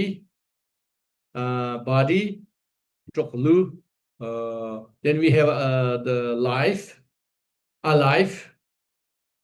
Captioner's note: tibetan